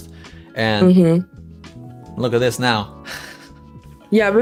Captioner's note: chuckles